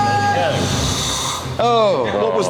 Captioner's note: engine starts; engine dies